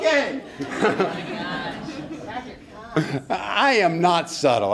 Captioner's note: laughter